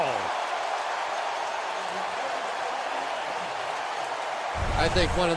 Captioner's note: cheering